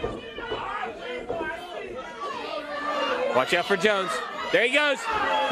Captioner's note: crowd chatter